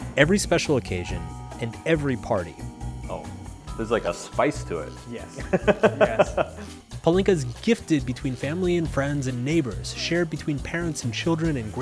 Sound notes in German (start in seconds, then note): 5.4 lacht